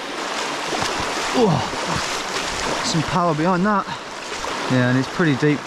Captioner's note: shoes splashing